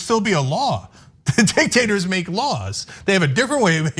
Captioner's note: laugh